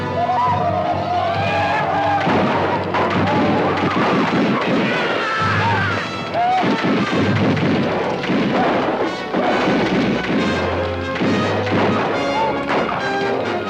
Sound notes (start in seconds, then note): 0.3 Apaches howl; 2.3 guns fire